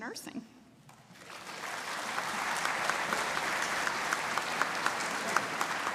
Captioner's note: audience applauding